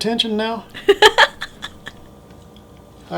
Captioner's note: laughter